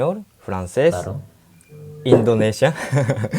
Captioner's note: Spanish